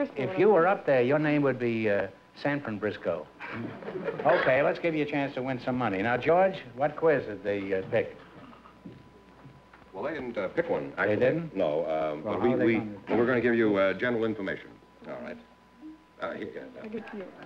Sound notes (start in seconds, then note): 3.4 laughter